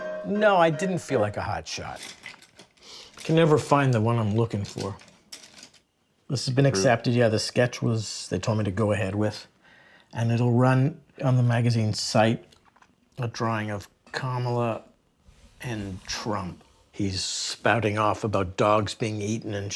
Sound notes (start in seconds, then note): 1.8 brushes rustling